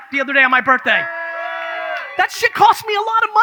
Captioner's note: audience cheers